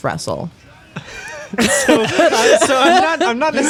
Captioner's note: laughing